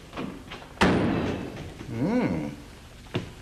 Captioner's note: door slams